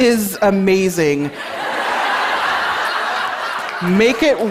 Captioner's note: laughter